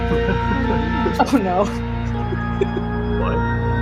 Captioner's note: giggles; chuckles